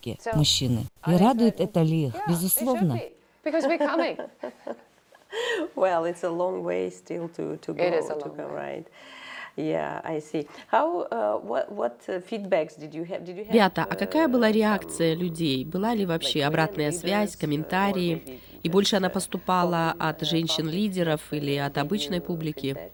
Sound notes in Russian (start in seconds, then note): 3.0 Разговаривают на английском